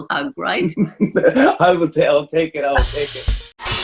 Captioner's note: laughing